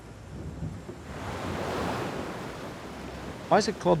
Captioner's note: waves crashing